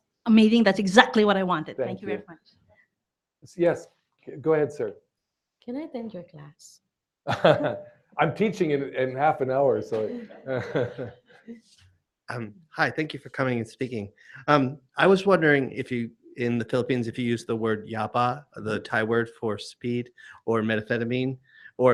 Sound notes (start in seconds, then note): 8.2 chuckles; 10.2 chuckling